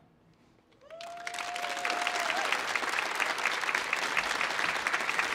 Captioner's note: audience applauding